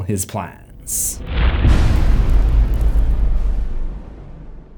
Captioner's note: impact